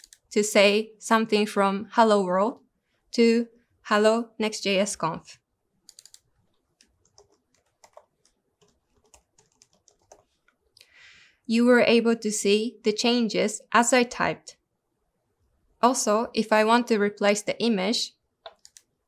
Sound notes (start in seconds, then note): 5.8 mouse clicking; 6.5 keyboard keys striking